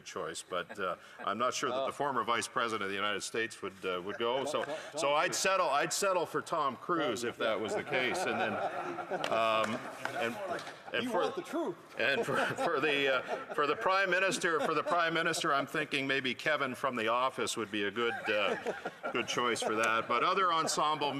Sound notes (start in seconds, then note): 12.0 some Laughter